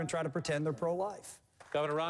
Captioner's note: applause